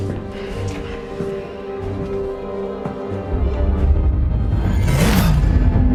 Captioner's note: heavy footsteps; sighs; whoosh